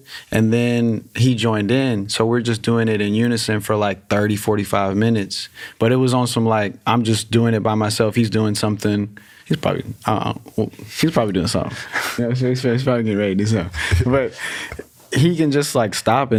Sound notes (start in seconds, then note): 13.7 laughs; 13.7 chuckles